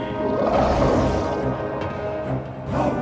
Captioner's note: dramatic music; creature grumbles